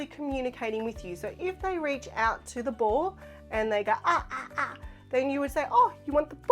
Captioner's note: babbling